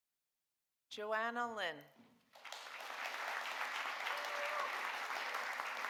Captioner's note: audience applauding